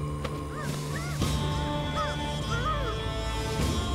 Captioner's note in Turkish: İnliyor